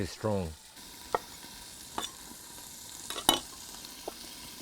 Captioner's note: pan sizzling